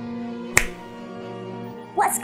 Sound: Dobby snaps his fingers

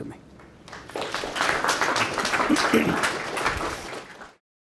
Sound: audience clapping

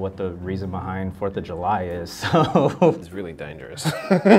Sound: laughs

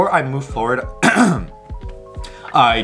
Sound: clears throat

